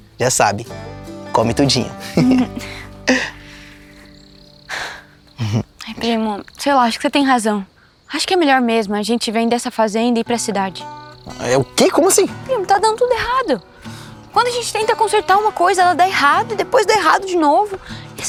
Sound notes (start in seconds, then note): 2.0 laughter; 3.7 Dininha sighs